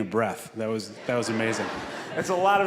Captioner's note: audience laughing